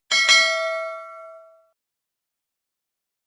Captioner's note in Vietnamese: chuông